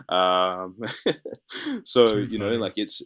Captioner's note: laughs